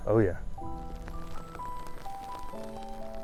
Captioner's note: sound of rain